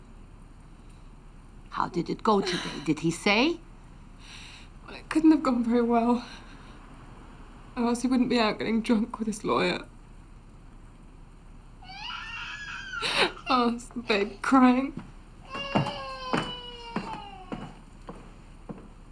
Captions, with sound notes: How did it go today, did he say? - Well, it couldn't have gone very well. Or else he wouldn't be out getting drunk with his lawyer. (Sam cries) Oh, it's the baby crying.